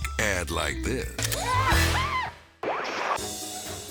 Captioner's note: slippery metal squeaking; whimsical jazz music; transition whooping